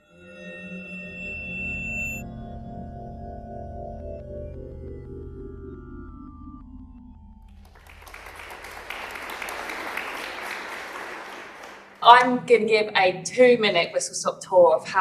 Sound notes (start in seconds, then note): 0.2 drone-like music; 7.5 applause